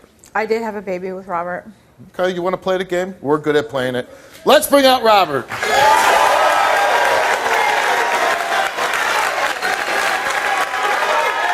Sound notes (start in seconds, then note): 5.4 audience cheers and applauds